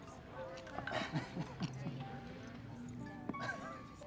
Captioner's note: chuckles